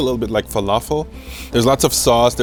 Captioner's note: sniffs